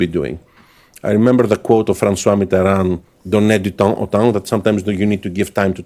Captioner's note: speaking french